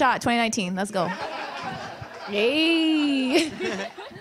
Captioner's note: audience laughter